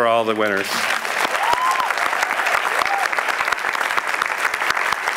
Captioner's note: applause